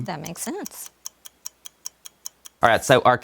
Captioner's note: ticking